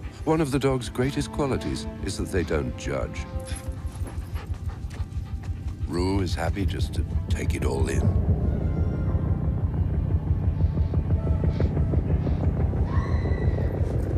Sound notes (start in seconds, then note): 8.2 helicopter whirring; 8.2 woman screaming